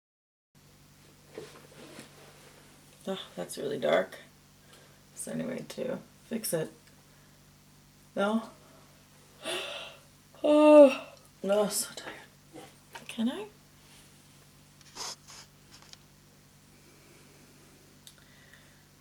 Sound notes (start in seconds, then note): 9.4 yawns aggressively; 18.0 clicks tongue lightly